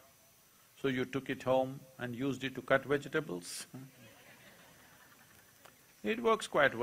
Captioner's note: laughter